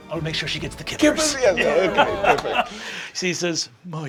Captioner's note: laughing